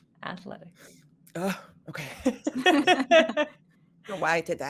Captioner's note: laughing